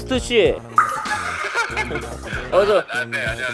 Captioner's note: laughing